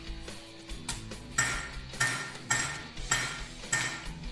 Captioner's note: metal clunking